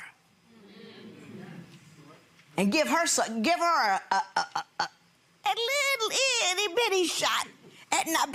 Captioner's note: audience hums in agreement